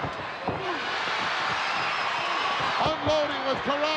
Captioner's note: crowd cheering